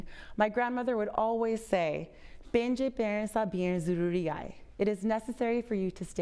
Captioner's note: speaking foreign language